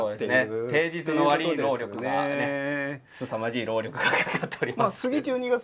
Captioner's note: laugh